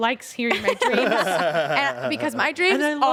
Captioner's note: everyone laughs